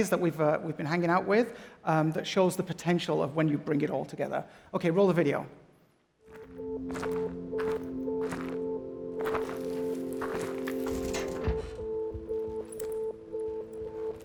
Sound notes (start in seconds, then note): 6.8 footsteps in gravel